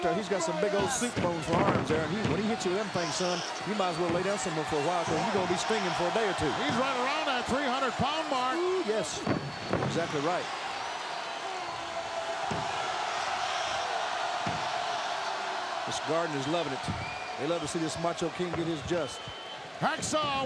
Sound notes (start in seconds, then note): 10.7 audience cheering